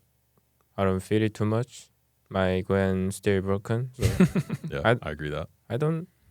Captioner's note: laughs